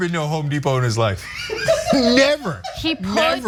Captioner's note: laugh